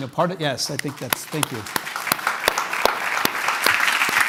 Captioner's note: applause